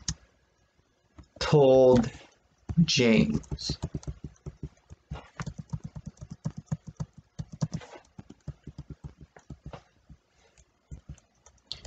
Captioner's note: continued tapping of keyboard